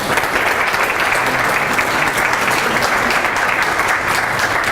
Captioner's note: applauding